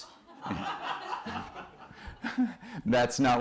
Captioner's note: laughter